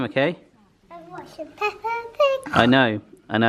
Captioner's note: snorts